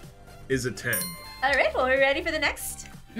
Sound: bell chimes

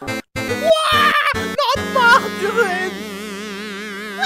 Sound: scream!

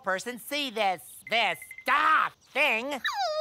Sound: sobbing

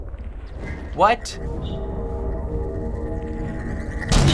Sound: pulsating hum; explosion

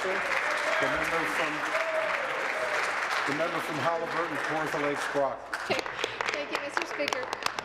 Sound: applause

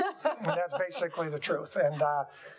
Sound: laughing

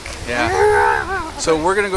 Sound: makes growling noises

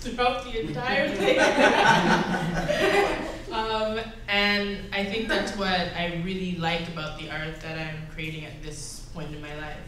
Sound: laughs

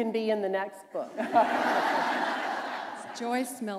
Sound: laughter

